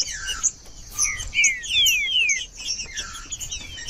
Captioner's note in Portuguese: trinca ferro cantando